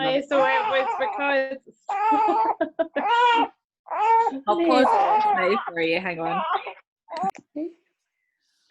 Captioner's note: baby noises